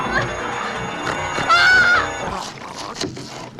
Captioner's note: screams; gurgling